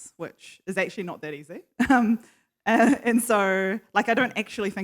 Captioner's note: laughs